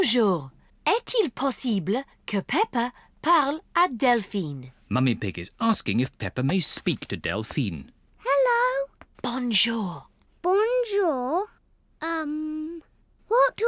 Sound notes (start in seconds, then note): 9.0 whispering